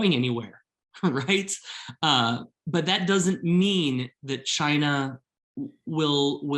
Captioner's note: laughter